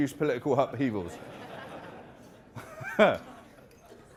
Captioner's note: laughing